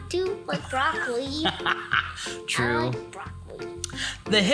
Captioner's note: laughs